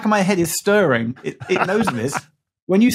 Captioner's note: laughs